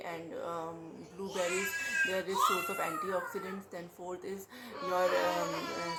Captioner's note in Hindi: रोने की आवाज़